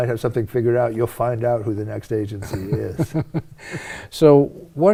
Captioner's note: laughing